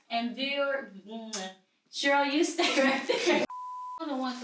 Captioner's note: laughs